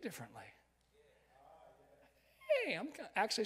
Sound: crowd

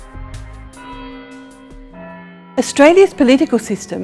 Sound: bells ringing

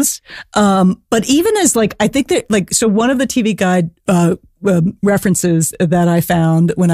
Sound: sarcastically

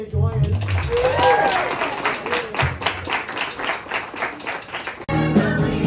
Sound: cheers

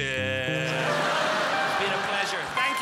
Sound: crowd laughs

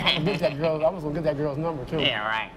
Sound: laughing

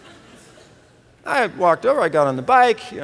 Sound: laughter

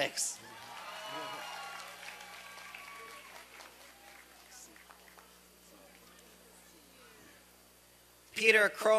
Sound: applause and cheering

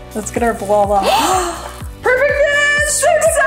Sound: laughs; gasps

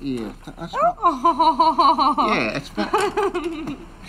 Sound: woman laughs

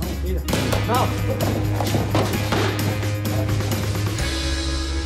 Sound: grunting

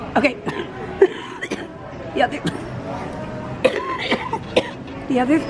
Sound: coughing

